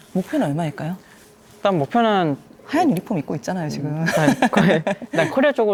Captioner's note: laughs